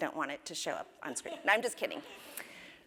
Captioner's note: laugh